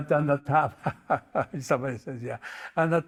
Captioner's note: laughs